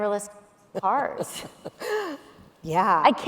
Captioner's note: laughing